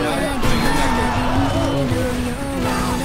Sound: Goofy Holler Plays

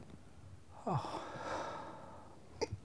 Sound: long sigh

